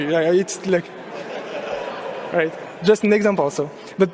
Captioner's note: audience laughing